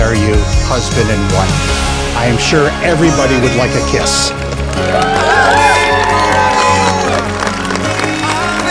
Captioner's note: cheering